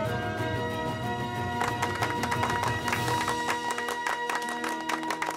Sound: clapping

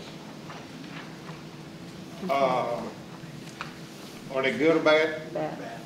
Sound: crowd softly murmurs; crowd murmurs

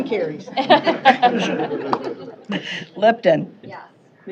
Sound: laughter

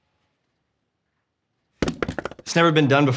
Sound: headset clatters

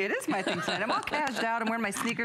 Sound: laughter

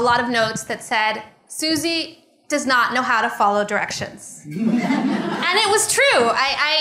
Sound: laughter

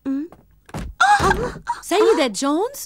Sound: stomping sound

